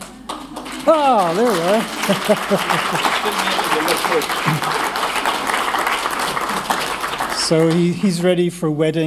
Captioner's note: applause